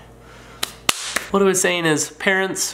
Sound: claps

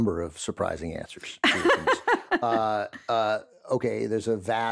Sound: laughs

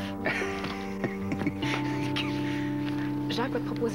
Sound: Rire

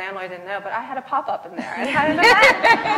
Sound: laughs

